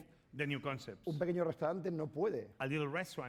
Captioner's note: speaking spanish